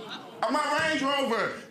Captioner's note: audience exclaiming